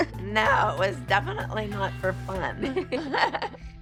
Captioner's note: laughs; all laughs